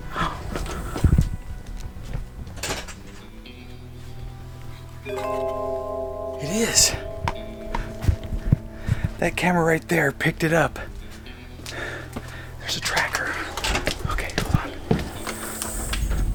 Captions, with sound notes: (slow gentle music) . It is. (tone chimes) (slow gentle music) That camera right there picked it up. There's a tracker. Okay. Hold on.